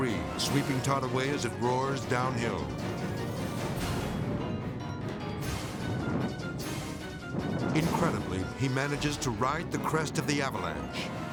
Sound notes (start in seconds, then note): 3.0 intense orchestral music; 3.0 snow rumbling